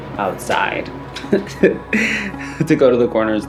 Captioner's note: laughs